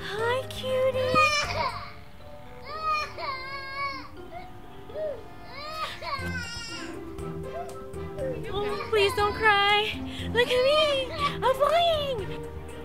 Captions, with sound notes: Hi cutie! (Boy Cries) Please don't cry Look at me. I'm flying!